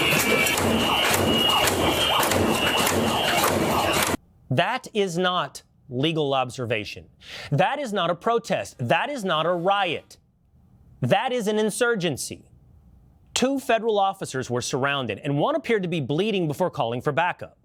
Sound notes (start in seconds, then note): 0.0 whistle